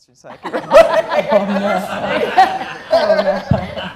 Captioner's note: laughter